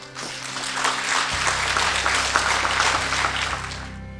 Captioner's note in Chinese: 掌声